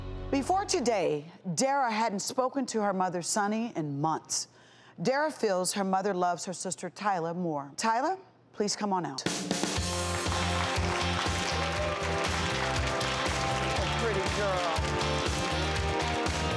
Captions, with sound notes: Before today, Dara hadn't spoken to her mother Sunny, in months. Dara feels her mother loves her sister Tyla more. Tyla, please come on out. (upbeat music) (audience applauds) Pretty girl.